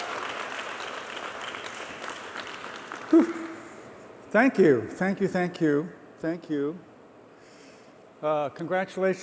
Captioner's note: applause